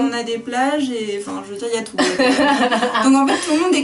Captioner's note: laughs